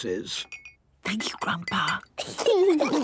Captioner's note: Granny whispering; children giggling